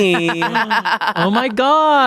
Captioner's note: laughs